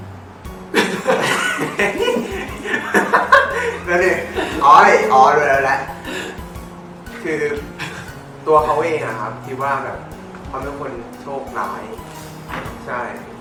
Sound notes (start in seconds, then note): 0.7 laughs; 7.6 stifled laughed